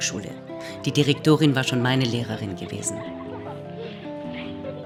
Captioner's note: children laughing